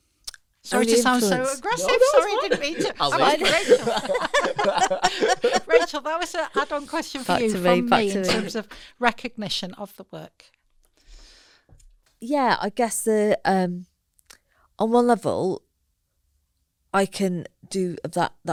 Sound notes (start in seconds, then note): 5.7 laughter